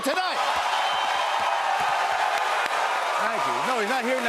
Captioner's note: cheers and applause